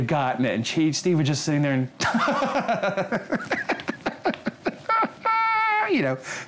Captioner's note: laughs